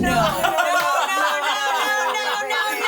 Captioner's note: everyone laughs